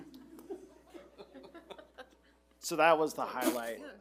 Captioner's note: board members laughing